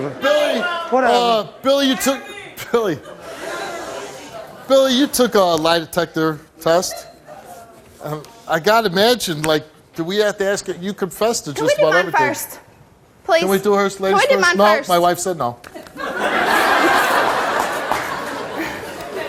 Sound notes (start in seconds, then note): 15.7 audience laughs